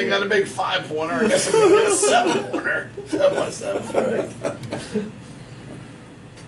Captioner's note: laughing